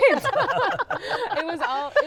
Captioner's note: laughter